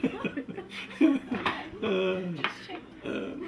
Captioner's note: laughter